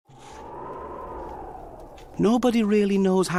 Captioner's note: wind howling